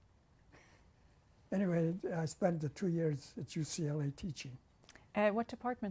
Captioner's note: laughs